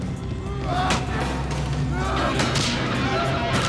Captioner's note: grunts